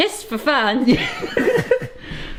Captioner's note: chuckles